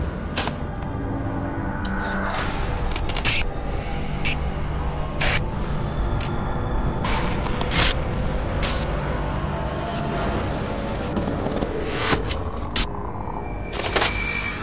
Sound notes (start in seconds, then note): 3.1 electronic zapping; 3.1 ominous ambient music